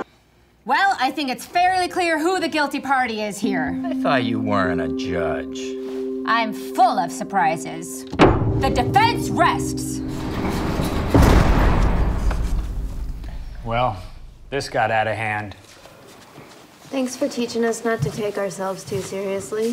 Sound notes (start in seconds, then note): 8.1 gavel bang; 10.7 jail door slamming